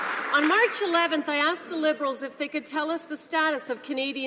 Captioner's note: some Applause